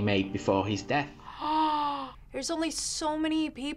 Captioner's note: gasps